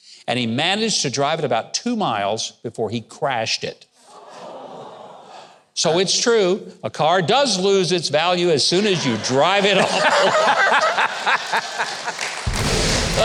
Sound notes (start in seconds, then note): 4.3 audience murmuring; 10.3 all laughing